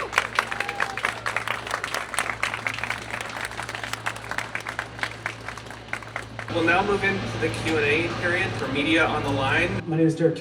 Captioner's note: cheers